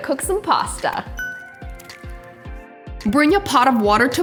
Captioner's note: ding